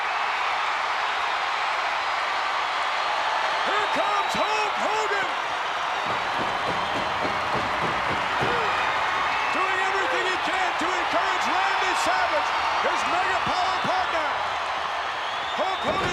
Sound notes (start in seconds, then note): 0.3 audience cheering; 6.0 Hulk pounding on mat